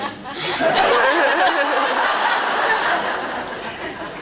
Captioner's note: laughs